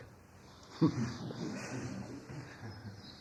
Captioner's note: laughs